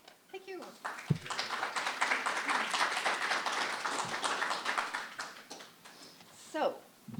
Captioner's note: applause